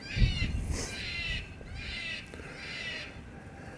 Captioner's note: animal calls